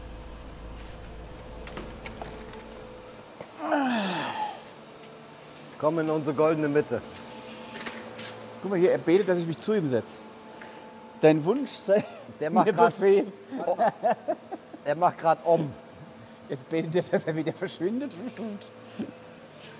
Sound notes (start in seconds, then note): 3.5 moan